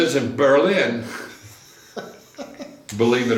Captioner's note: laughs